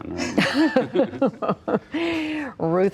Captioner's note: laughter